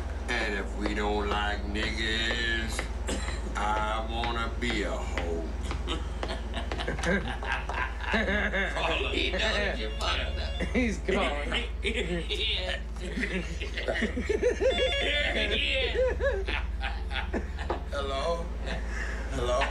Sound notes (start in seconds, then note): 4.5 laughs; 5.4 partier laughs; 9.7 telephone rings; 13.0 laughs; 18.7 partier laughs